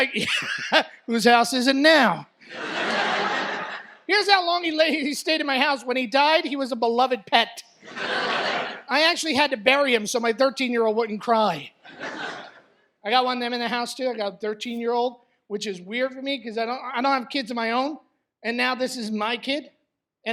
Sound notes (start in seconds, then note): 2.4 laughs; 7.8 laughter